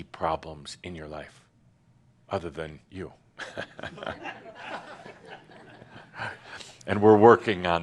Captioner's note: some chuckles